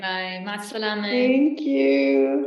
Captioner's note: non-english speech